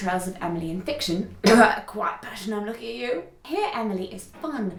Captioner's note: cough